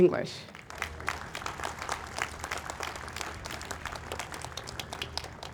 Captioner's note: audience applauds